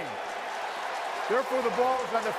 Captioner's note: cheering